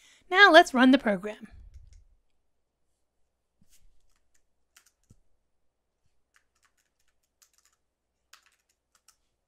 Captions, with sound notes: Now let's run the program. (keyboard clanking)